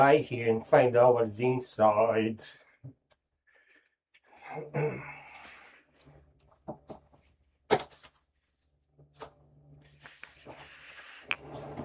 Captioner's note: clears throat